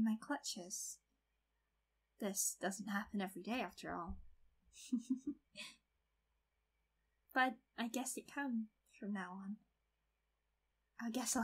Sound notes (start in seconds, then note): 4.8 slight Chuckles/Giggles